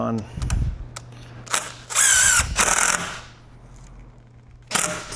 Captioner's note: drill whirring